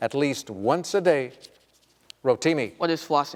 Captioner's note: none